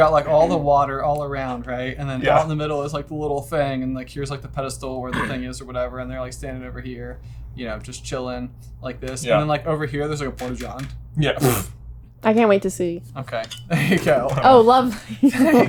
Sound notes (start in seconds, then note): 11.4 snorts